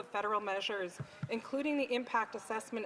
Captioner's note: speaking Indigenous Language